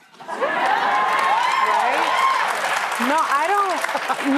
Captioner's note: cheers and applause